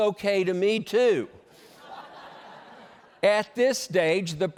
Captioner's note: laughter